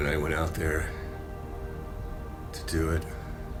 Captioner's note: air whooshes